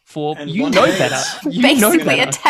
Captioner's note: laughter